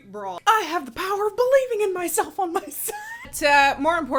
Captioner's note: laughs